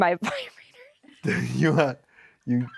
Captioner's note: laughs